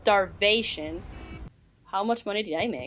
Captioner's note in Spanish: bocina de carro